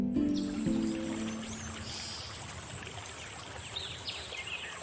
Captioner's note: birds chirping